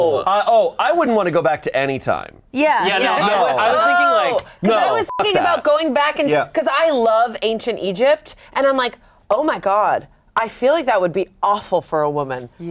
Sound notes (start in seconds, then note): 4.9 beep